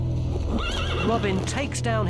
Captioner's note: horse neighs